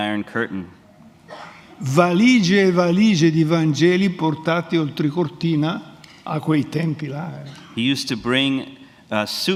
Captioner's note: speaks in Italian